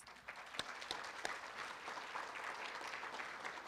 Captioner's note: room applauds